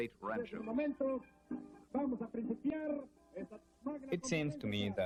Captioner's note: male speaking in Spanish